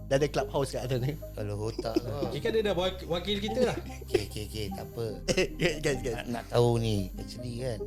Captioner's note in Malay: ketawa